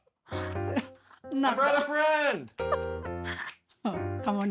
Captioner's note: light playful music; chuckle; laughs